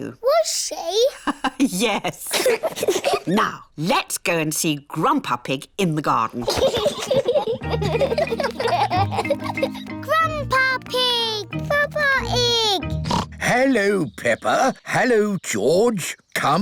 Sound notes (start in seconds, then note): 2.0 both giggle; 2.2 laughs; 6.4 both laughing; 12.8 oinks